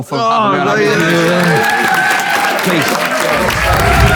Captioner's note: people in room applaud